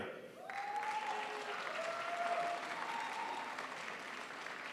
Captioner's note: crowd applauds